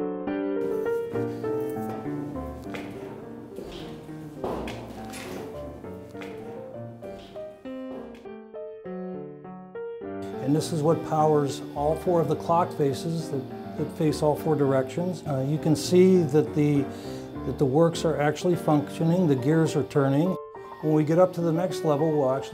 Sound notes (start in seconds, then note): 0.1 piano playing; 4.0 boots stomping